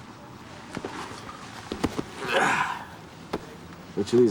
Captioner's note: grunts